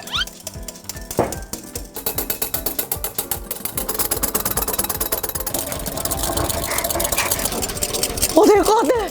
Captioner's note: hahahahahahahahahahahahahaha